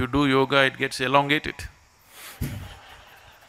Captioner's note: laughter